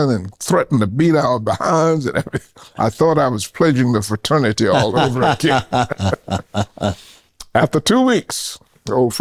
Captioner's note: laughing